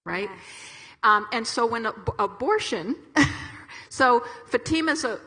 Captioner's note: chuckles